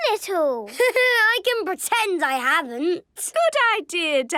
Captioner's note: Danny laughing